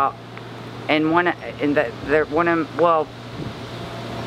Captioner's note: stammers